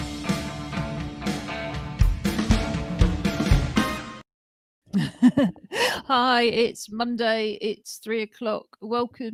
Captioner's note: laughing